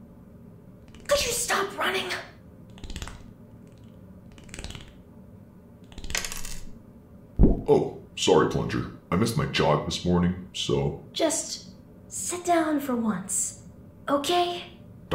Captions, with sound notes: Could you stop running?! [skittering] Oh! Sorry, Plunger. I missed my jog this morning, so... Just... sit down for once. Okay?